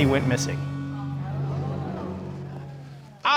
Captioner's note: audience gasping